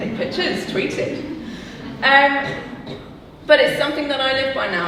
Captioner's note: audience laughing